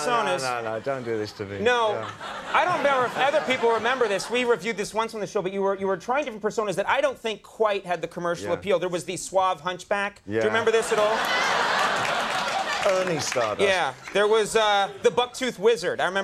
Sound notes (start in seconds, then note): 10.6 audience laughs